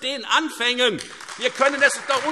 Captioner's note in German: Beifall Freie Demokraten und AfD